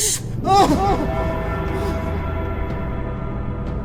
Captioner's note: he gasps; sinister music